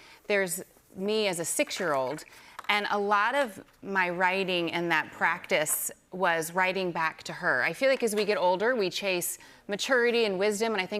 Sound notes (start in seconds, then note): none